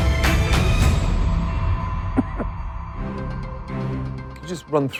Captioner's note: coughs